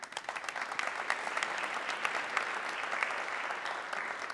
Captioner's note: audience clapping